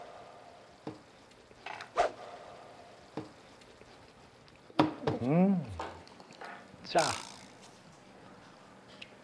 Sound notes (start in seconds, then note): 5.2 humming